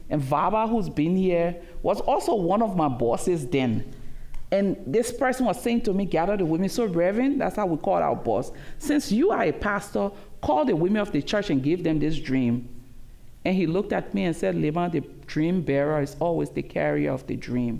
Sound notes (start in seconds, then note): none